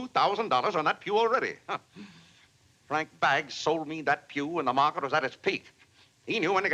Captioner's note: scoffs